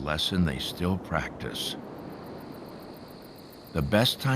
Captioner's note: crickets chirping